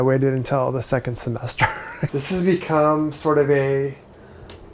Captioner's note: laughs